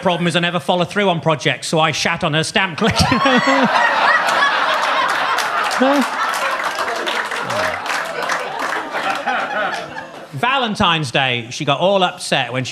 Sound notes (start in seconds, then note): 2.9 audience cheers; 3.2 laughs; 4.0 audience claps